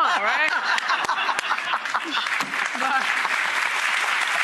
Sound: audience claps

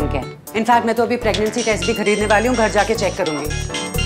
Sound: phone ringing

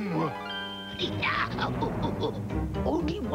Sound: giggles

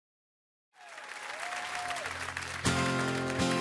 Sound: audience applauds

